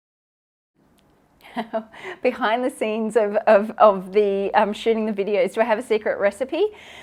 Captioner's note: chuckles